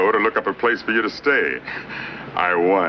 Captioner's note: chuckling